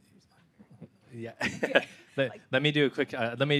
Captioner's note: laughing